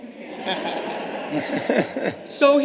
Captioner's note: laughter